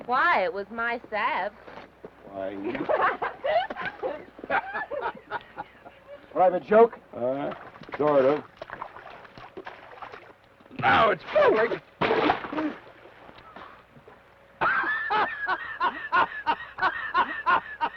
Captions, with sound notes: - Why? It was mine's to have. - Why, you. (Laura laughs) (Theodore laughs) - Private joke? - Huh? Sort of. Now it's public! (water splashes) (laughs)